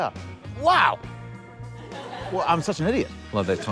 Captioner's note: laughter